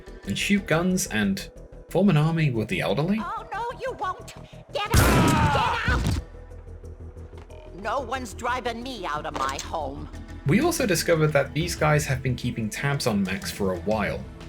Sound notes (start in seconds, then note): 4.9 shotgun blasts